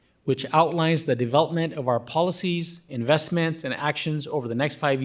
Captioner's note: none